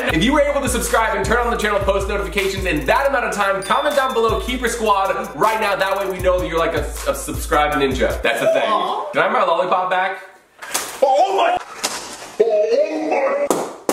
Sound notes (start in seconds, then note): 8.7 ninja noises